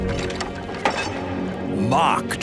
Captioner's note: lock clanking; door thudding